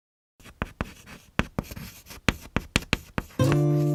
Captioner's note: writing on a chalkboard; guitar music